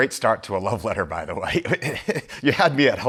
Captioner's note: laughs